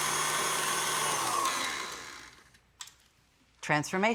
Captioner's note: mixer stops